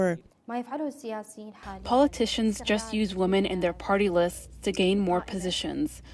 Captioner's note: through translator